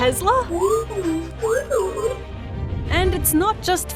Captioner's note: beeps